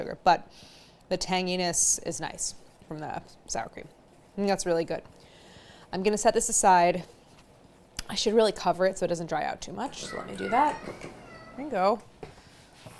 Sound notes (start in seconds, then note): 10.0 meowing